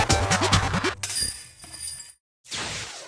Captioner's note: chains